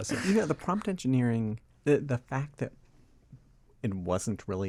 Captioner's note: chuckles